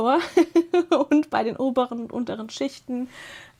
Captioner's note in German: gelächter